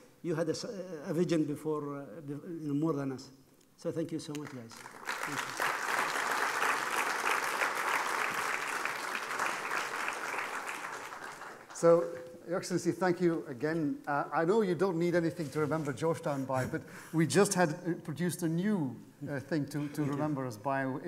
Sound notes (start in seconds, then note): 4.6 applause